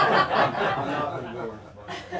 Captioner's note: laughter